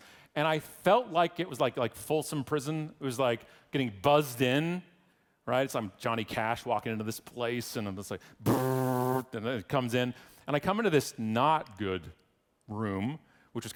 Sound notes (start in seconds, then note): 8.4 buzzes